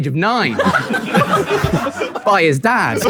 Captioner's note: people in room laughing